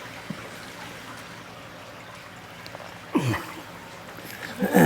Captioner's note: water flowing; grunts